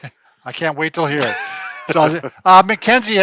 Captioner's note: laughs